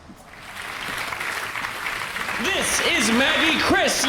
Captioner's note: applause